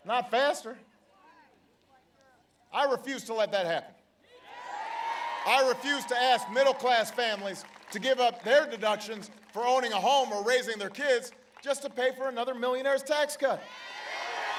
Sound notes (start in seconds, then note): 4.4 applause